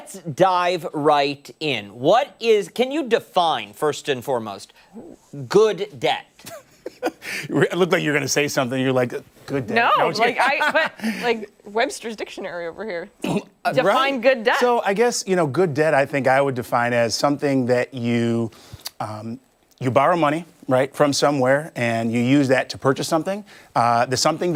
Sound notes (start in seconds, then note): 10.2 laughter